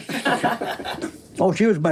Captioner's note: everyone laughs